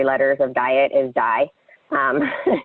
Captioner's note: laughs